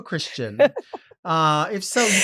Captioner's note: Marguerite laughing